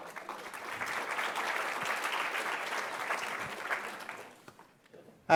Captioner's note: applause